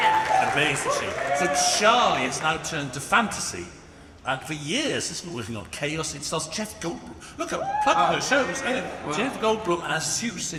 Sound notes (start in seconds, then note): 7.5 audience cheers